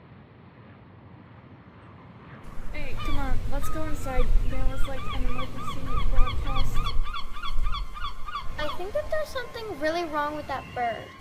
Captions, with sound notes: - Hey, come on, let's go inside. (gulls squawking) There was, like, an emergency broadcast. (gulls squawking) - I think that there's something really wrong with that bird.